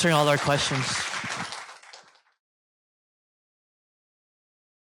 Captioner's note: applause